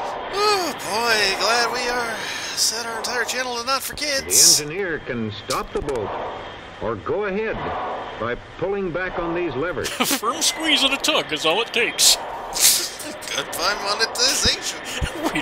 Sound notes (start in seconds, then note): 12.5 laughing